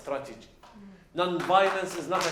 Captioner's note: applause